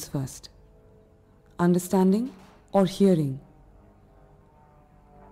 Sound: airplane engine roaring

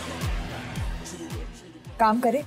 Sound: mouthing

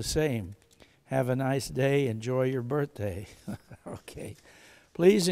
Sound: chuckles

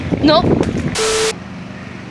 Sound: sine wave

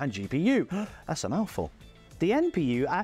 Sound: inhales

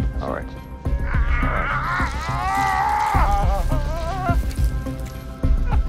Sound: screaming

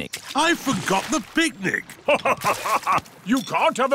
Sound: laughs

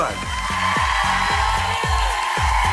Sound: audience applause

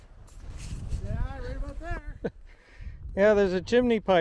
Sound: chuckles

